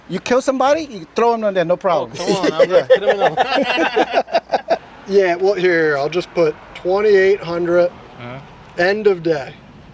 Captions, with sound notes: You kill somebody, you throw them in there. No problem. Come on, I'm done. [LAUGHTER] Yeah, well here, I'll just put 2,800 end of day.